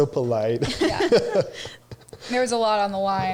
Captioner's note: all laugh